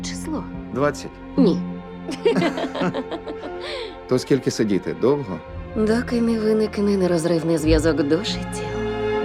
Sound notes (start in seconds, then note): 2.1 both laughing